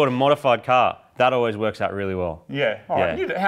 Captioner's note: sarcastically